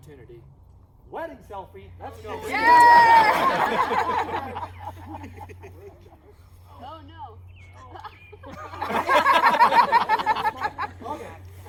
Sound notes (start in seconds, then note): 2.2 laughter, woops; 8.4 laughter